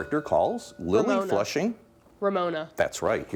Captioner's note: bell dinging